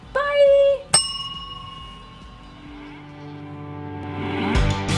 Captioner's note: bell ringing